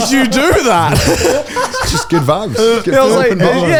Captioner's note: all laugh